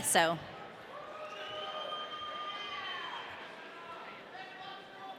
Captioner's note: audience cheering